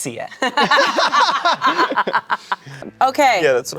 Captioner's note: everyone laughs